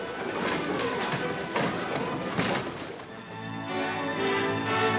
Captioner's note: footsteps plodding; bright music